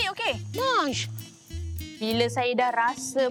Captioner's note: foreign language